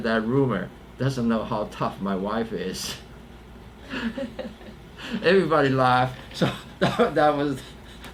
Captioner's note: laughs